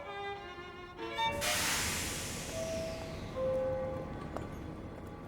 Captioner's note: train doors hiss